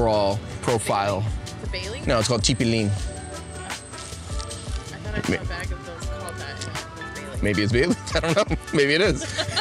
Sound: laughs

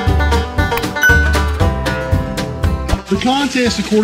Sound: bell dings

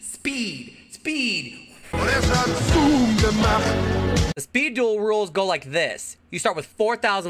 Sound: echo

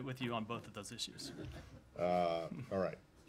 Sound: laughter

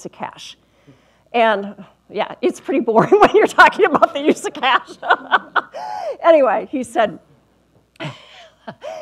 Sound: laughs

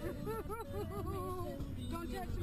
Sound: laughter

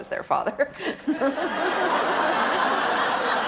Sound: laughs; audience snickers

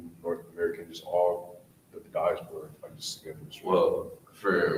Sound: speaks away from mic

